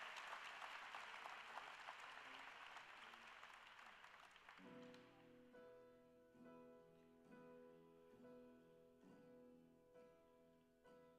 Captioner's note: cheers and Applause